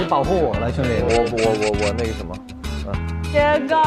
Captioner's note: stuttering